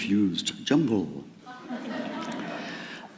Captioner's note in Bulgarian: Смях